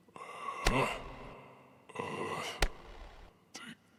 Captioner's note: thud resounds